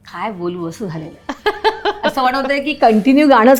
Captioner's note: laughing